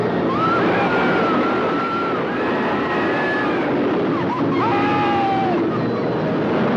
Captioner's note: roller coaster rattling; people screaming